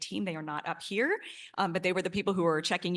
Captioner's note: none